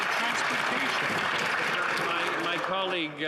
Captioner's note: some Applause